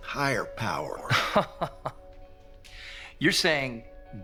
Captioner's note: Will Laughing